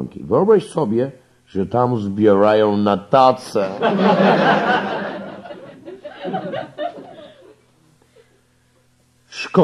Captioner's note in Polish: śmiech